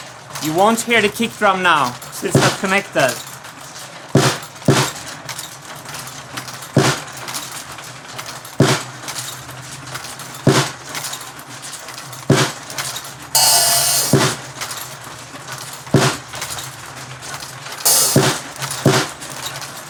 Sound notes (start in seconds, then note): 4.1 a series of marble drops on the drums